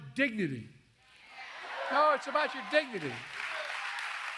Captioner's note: applause